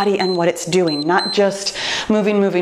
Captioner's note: timer beeps